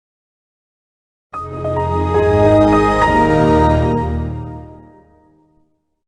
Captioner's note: Windows XP Startup